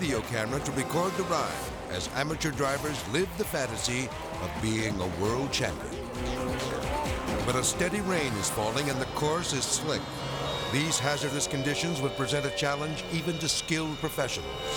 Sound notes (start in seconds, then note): 6.3 car rumbling